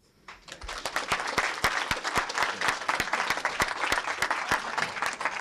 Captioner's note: applause